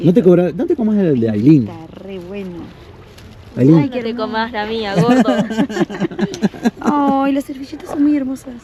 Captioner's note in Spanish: risas